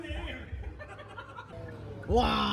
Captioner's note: hahahahahaha